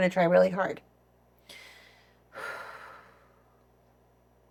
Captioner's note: sighs